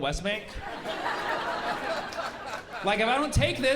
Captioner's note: laughter